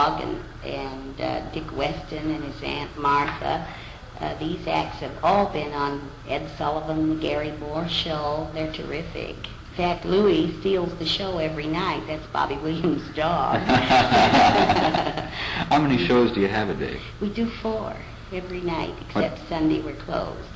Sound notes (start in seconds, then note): 13.5 laughter